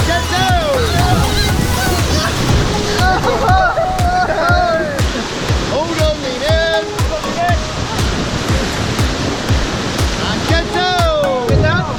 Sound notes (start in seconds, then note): 1.2 group exclaims